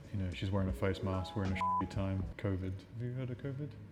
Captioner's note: beep